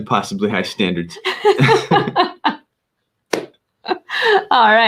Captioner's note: both laughing